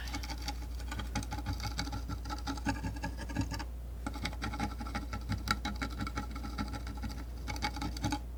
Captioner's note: tapping